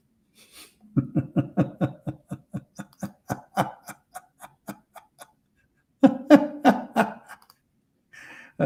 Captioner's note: Ketawa